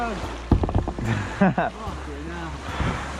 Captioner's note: laughing